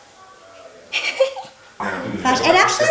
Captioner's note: laughing